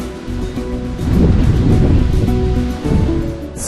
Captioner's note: wind blowing